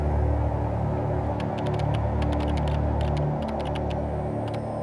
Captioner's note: keys clicking